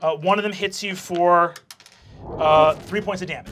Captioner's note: dice clacking